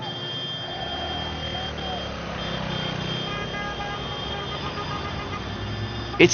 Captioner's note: cars honking